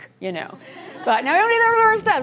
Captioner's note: laughter